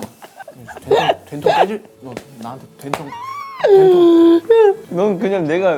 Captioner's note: gonna yell at you